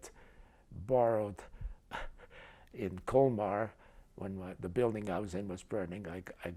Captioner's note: chuckles